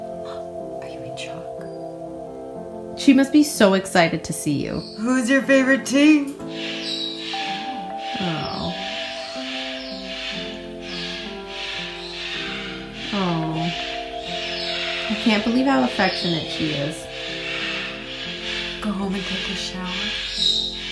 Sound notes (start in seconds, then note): 1.3 instrumental music; 5.9 instrumental music; 8.0 birds cawing in the background